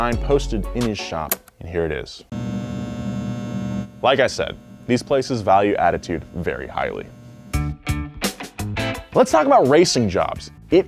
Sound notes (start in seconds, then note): 2.3 static buzzing; 7.4 funky music